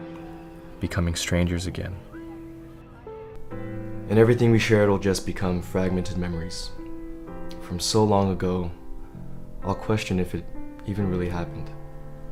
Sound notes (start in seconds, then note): none